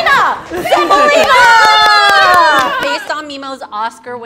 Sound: group cheering

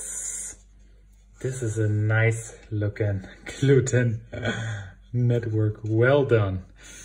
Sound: speaking in German

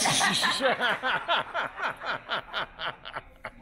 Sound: laughing

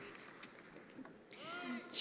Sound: attendees applauding

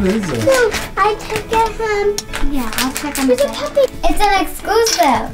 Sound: laughs; children talking softly

